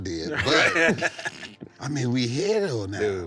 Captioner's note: soft laughing